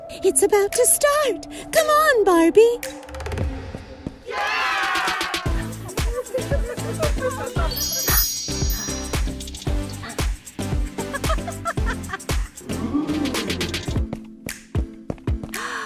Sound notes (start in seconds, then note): 4.2 crowd cheers; 5.3 upbeat pop music; 5.5 laughing; 7.6 magical chimes; 10.9 laughing; 12.8 crowd gasps